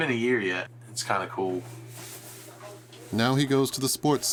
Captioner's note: shirt rustling